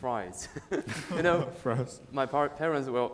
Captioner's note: laughing